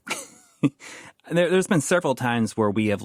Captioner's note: laughs